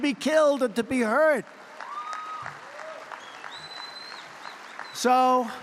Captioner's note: applause